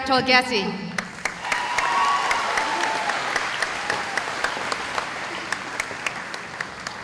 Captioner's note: cheering